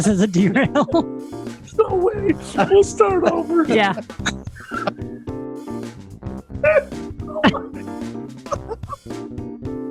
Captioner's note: laughing